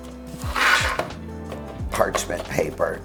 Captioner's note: sheet scraping